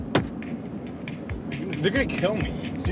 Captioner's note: thump on door